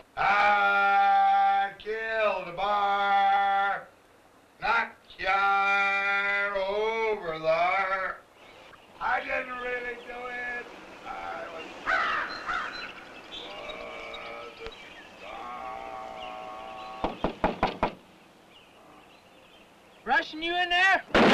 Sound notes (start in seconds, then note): 17.0 knocking; 21.1 gunshot